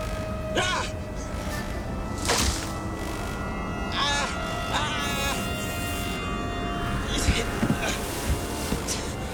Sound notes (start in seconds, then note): 3.7 moaning